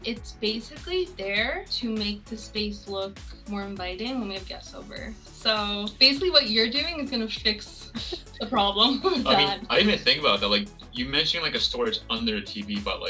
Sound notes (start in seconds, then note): 7.8 laughing